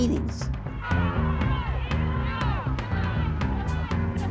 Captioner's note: protestors shouting